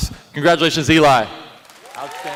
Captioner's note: applause